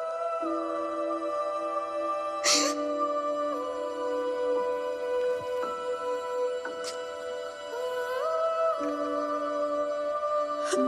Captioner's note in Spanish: Sollozos